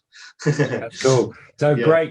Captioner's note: chuckles